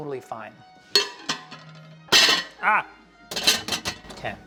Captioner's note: plate clatters